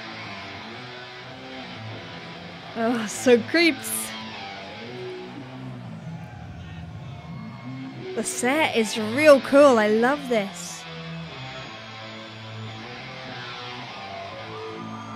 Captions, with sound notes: Uh, so creeps. (crowd chattering) The set is real cool, I love this. (guitars grinding)